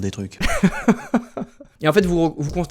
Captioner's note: laughs